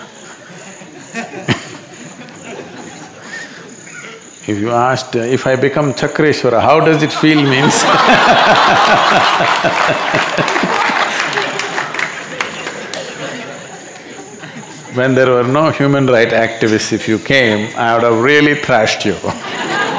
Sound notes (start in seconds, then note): 6.9 laughter/Applause; 12.9 笑聲/掌聲